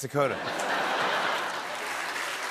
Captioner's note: laughter; chuckles